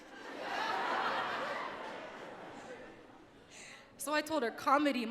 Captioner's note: audience laughs